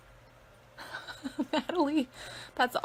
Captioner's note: laughing